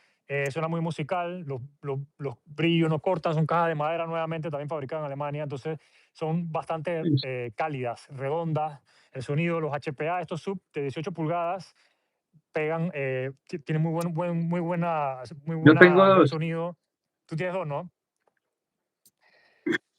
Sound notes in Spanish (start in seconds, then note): 19.6 carraspeo